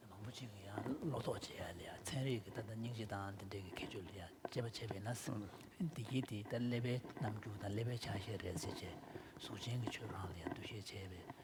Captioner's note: foreign Language